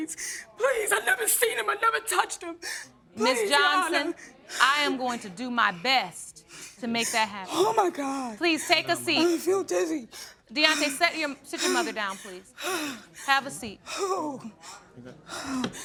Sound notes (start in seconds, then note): 13.5 breathing heavily